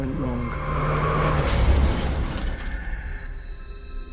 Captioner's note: brakes screech; crash